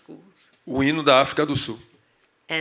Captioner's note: speaking portuguese